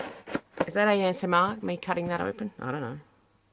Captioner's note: cardboard cutting noises